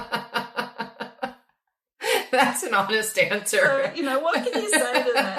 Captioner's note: laughing hysterically